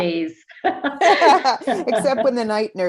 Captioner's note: laughing